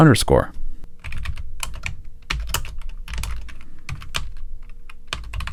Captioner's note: keyboard clacking